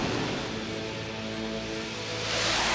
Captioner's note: jet whooshes away